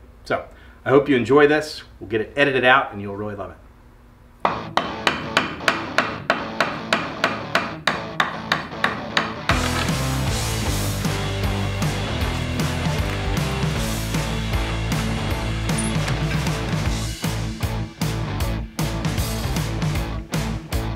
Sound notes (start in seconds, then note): 4.5 hammering; 9.7 fast-paced rock music